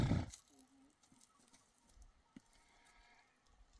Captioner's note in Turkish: homurdanır